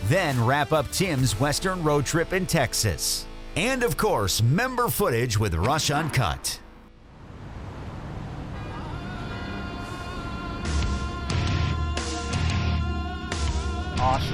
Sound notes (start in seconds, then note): 8.7 honk; 9.8 rock music